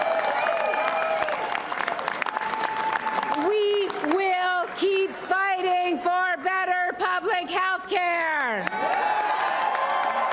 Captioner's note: applause